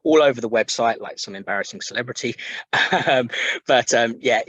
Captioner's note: chuckles